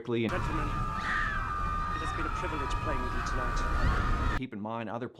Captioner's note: people still screaming